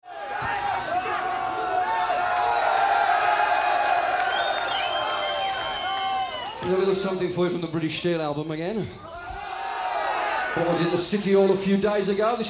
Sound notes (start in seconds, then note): 0.0 audience cheers and yells; 9.0 audience cheers